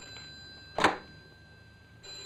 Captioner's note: typewriter chattering; phone ringing; thump; phone ringing